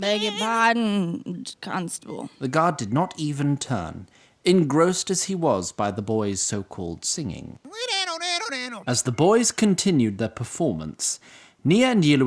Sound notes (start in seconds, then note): 3.5 slurring